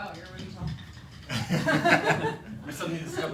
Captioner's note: all laugh